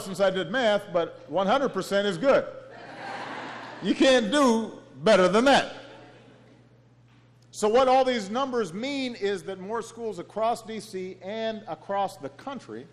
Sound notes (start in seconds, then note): 2.7 laughter